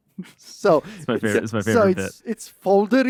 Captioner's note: laughs